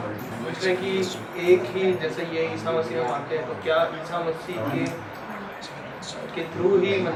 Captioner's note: foreign